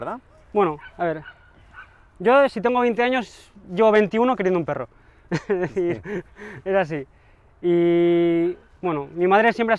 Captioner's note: laughter